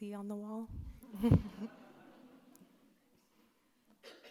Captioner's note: audience laughs